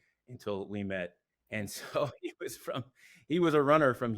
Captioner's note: laughs